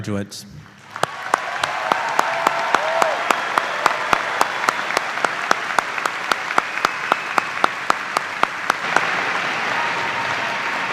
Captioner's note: cheers and applause